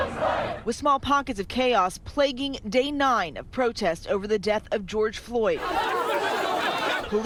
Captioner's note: crowd chanting